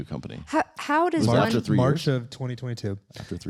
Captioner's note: cough